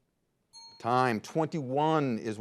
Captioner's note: signal dings